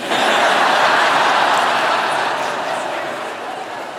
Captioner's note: laughter